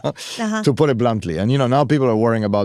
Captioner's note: chuckling